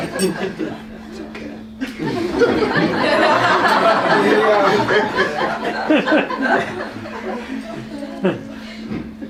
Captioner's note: laughter